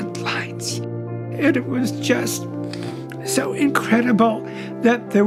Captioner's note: voice breaking